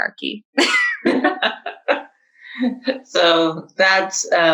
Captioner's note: laughs